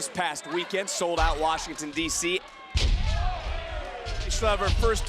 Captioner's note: bodies slamming